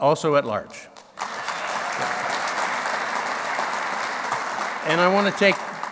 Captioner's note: clapping